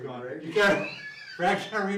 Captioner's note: both laughing